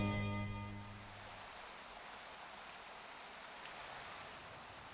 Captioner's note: water pouring